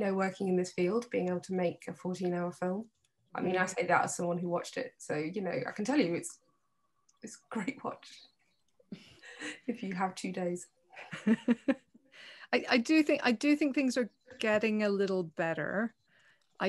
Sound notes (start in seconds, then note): 11.0 chuckles